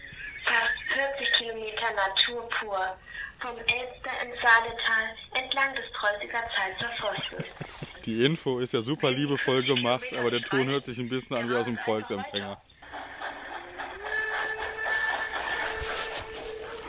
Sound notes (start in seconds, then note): 12.8 train rattling from the audio guide